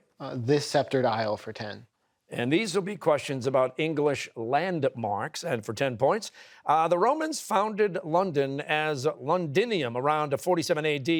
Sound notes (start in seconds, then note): none